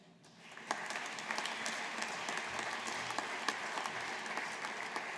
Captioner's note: audience applauding